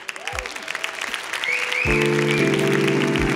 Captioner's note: applause